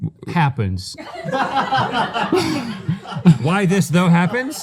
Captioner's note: laughter